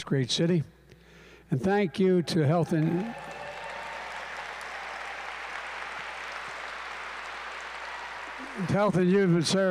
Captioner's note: applause